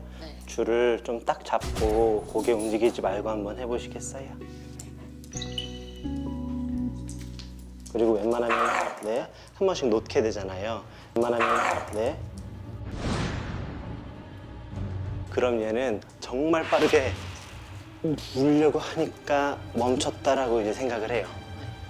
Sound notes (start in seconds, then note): 8.2 Hope growls again